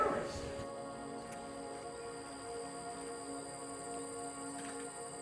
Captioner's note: insects chirping